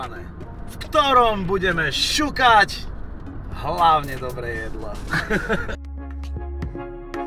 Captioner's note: laugh